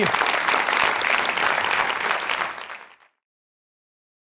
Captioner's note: audience applauds